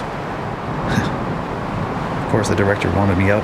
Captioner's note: sigh